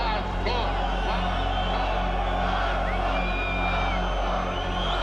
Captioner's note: crowd chants and whistles